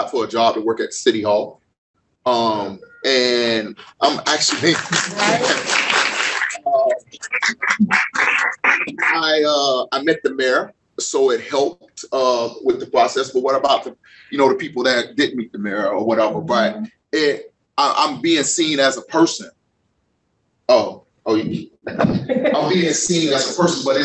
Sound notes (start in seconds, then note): 4.4 applause